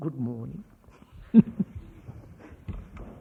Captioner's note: laughs